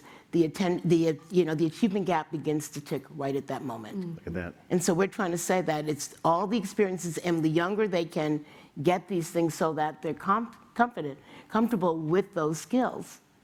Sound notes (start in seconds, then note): none